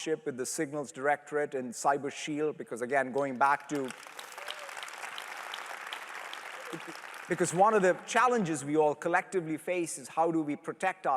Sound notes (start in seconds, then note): 3.1 applause